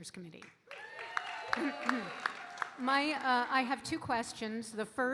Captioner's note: audience cheering and applauding